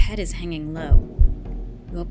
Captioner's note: heartbeat sound effect